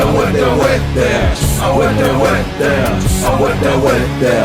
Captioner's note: non-english speech